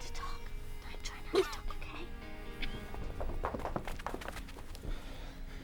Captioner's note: coughing